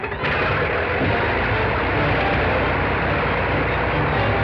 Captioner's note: punch thuds; plane whirring